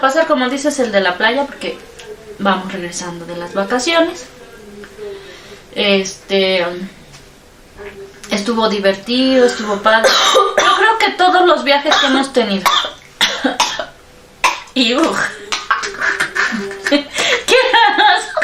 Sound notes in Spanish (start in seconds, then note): 15.0 se ahoga